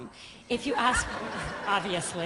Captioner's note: laughter